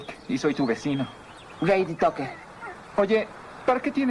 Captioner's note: animal Screeching